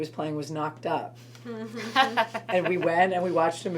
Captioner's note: everyone laughs